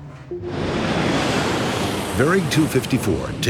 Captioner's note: plane engine roars